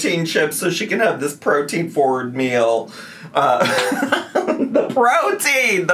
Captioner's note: laughs